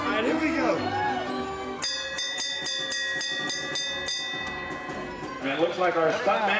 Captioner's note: bells dinging